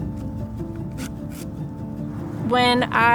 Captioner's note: paper ripping